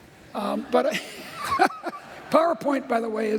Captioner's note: laughter